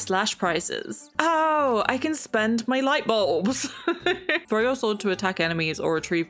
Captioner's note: laughs